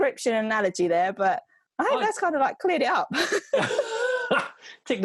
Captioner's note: laughs